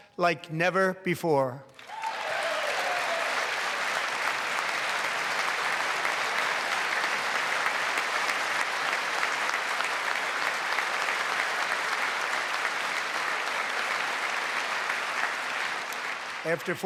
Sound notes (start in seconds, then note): 11.3 applause